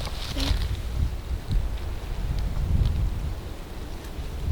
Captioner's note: quiet wind